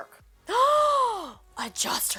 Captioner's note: gasps